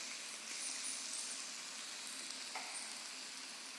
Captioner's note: food sizzling